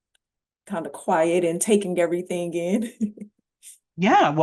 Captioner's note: chuckles